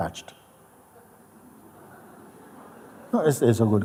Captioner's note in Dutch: gelach